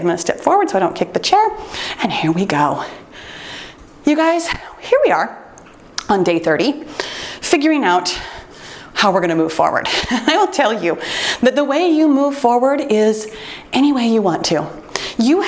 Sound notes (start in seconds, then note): 10.4 laughs